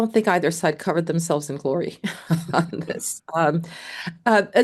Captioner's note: chuckles